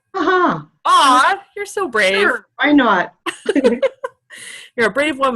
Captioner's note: laughter